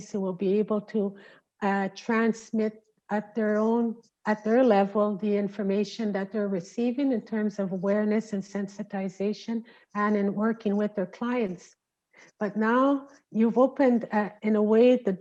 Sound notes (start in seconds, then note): none